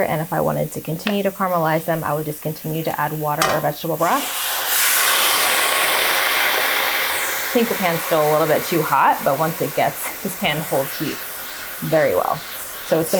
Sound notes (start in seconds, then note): 4.3 water sizzling